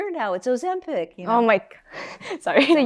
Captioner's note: laughs